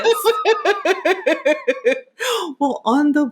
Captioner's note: laughing